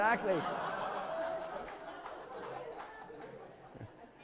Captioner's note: laughter